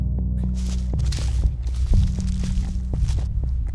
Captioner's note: leaves rustle